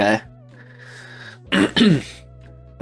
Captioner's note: clears throat